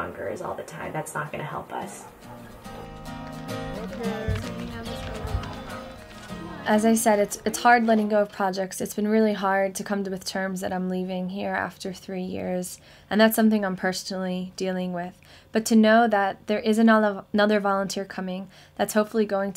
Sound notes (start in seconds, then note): 3.2 laughs; 9.3 people talking